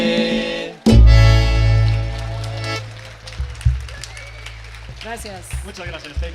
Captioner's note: attendees clapping and cheering